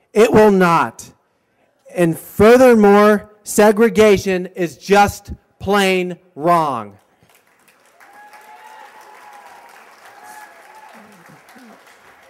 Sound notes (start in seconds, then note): 7.3 cheers and applause